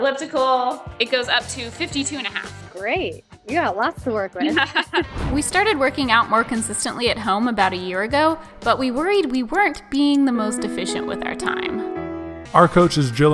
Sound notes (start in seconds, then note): 4.4 and trainer laughing; 11.9 heartwarming music